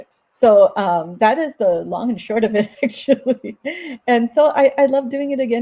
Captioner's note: laughs